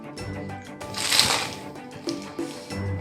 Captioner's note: crunch